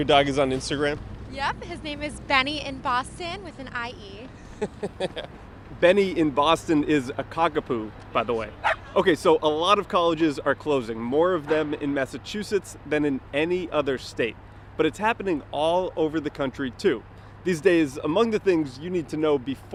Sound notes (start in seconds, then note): 4.4 chuckling; 8.6 dog barking